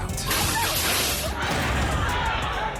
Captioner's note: display crashes; people shouting